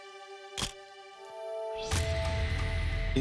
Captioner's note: camera shutter click